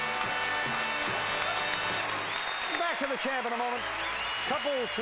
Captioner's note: audience applauding